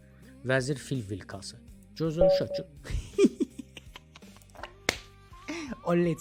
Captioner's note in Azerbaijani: gülüş